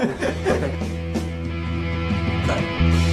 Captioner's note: laughter